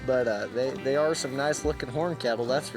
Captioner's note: none